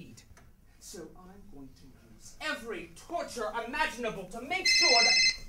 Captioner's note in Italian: un cellulare squilla